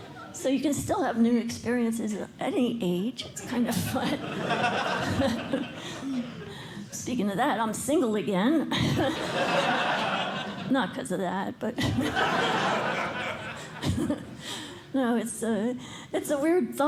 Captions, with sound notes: So you can still have new experiences at any age. It's kind of fun. [LAUGHTER] Speaking of that, I'm single again. [LAUGHTER] Not because of that. But-- [LAUGHTER] No, it's a weird thought.